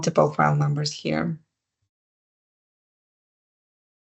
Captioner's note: silence